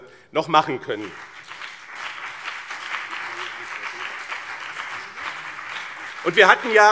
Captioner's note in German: Beifall BÜNDNIS 90/DIE GRÜNEN und CDU